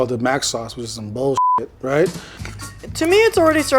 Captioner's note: beeps